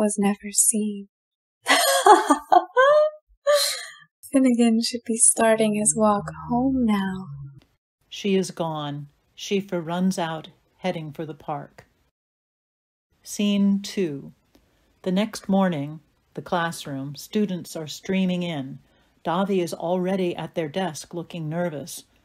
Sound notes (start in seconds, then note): 4.1 laughs, fading from sight